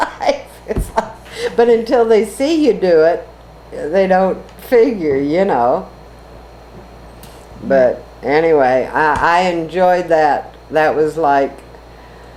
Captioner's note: laughs